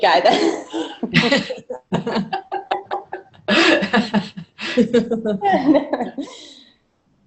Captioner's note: laughter